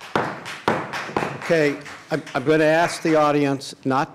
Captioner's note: applause